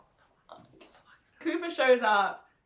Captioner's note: whispering